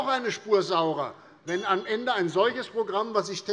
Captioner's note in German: Unruhe - Glockenzeichen des Präsidenten